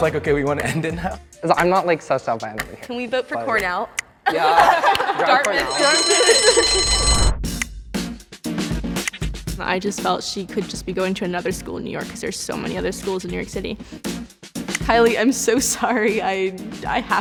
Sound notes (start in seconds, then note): 5.3 bell ringing; 7.2 suspenseful music